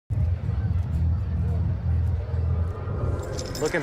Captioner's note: keys jingle